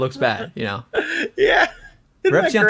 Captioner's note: laughs